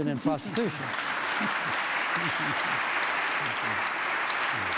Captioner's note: applause